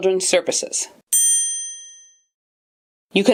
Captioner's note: ding